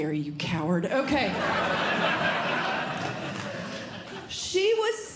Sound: audience Laughing

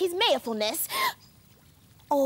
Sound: gasp!

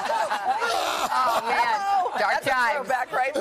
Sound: laughter

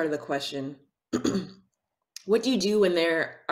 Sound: clears throat

